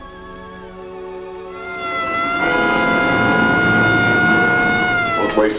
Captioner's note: siren wailing